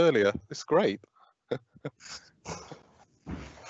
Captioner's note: laughs